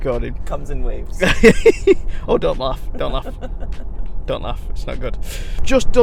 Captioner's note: laughing